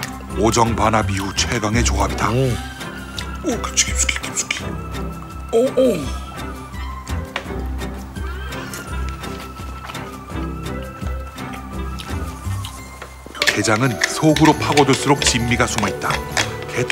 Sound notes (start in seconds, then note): 5.5 exclaiming